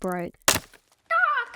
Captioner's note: snapping